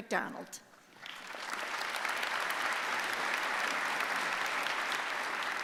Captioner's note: applause